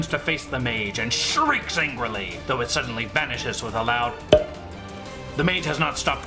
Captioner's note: pop